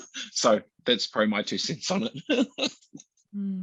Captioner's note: laughs